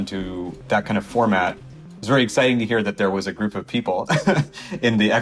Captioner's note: laughs